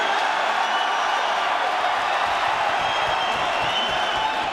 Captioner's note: crowd cheers